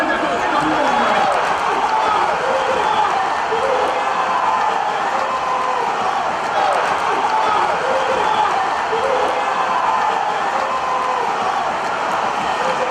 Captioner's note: fans celebrating victory